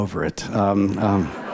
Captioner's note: laughter